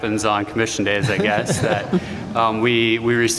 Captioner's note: laughter